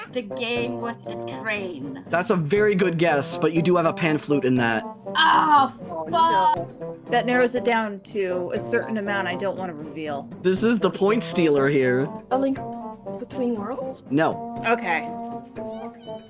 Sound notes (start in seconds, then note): none